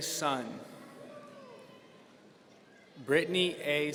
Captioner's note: audience cheering